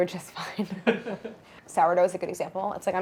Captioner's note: laughs loudly